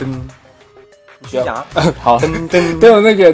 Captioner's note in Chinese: 呵呵